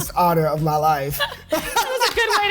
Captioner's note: laughter